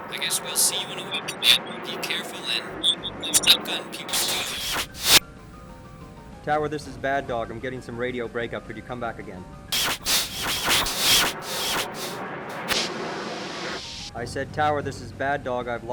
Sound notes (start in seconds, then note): 4.4 loud static; 9.7 loud static; 9.8 aircraft whirring